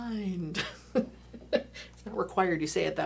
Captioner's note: laughing